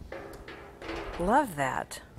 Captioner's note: metal frames clanging